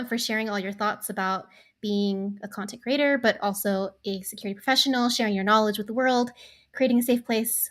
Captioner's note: none